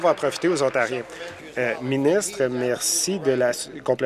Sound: applause

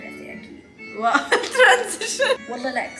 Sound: laughing

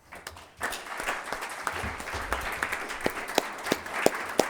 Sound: attendees applauding

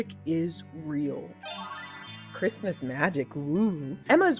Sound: twinkling sound

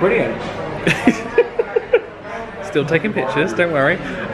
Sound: laughs

